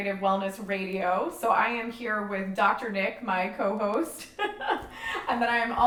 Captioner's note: laughs